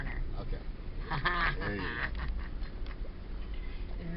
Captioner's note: laughs